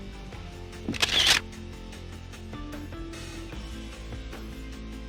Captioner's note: shutter clicks